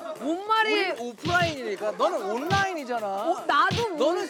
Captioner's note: bickering